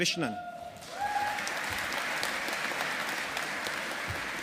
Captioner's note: audience applauding